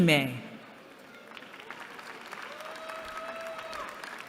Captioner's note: applause